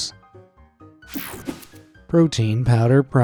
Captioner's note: screen whooshing